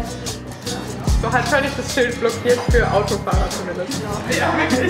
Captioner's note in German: Lachen